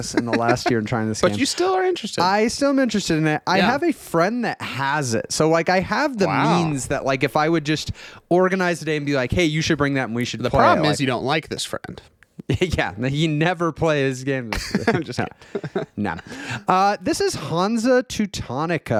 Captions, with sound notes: in the last year in trying this game. - But you still are interested. - I still am interested in it. I have a friend that has it. So like I have the means that like if I would just organize today and be like, hey, you should bring that and we should-- - The problem is you don't like this friend. - Yeah, he never plays games. (laughing) No. This is Hansa Teutonica.